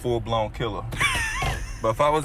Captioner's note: laughs